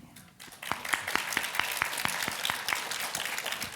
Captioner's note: applause